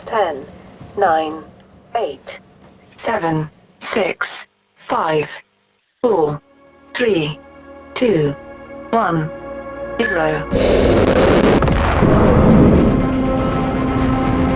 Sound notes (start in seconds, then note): 10.5 rocket whirs